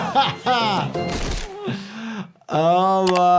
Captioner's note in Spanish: golpe dramático